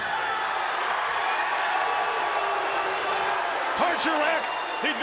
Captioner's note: crowd cheering